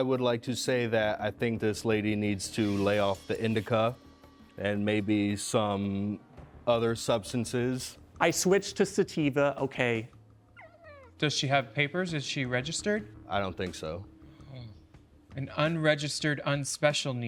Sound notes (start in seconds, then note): 10.5 dog crying